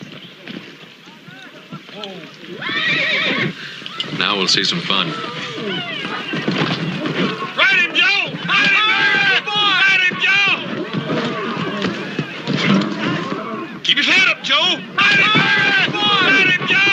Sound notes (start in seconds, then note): 2.5 horse whinnies